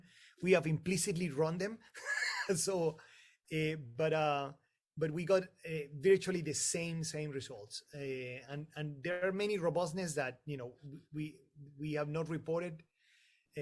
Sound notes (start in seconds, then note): 1.9 laughter